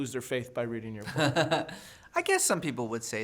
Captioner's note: laughing